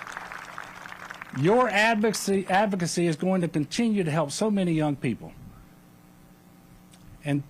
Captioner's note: applause